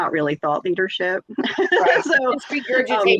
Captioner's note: laughs